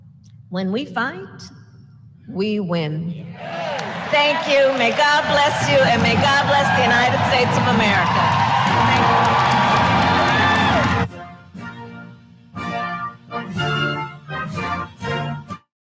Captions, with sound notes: When we fight, we win. (Applause.) Thank you. May God bless you. And may God bless the United States of America. Thank you. (Applause.)